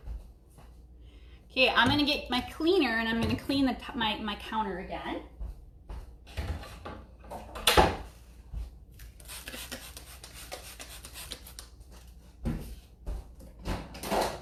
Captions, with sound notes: Okay I'm gonna get my cleaner and I'm gonna clean my counter again. (spraying)